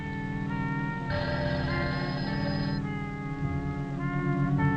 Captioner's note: phone rings